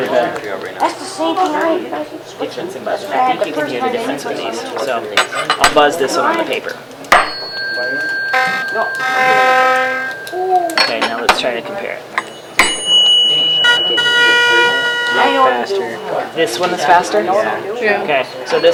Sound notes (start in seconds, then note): 7.2 hits tuning fork, rings, buzzes; 12.2 hits tuning fork, rings, buzzes